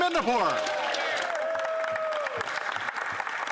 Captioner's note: some Applause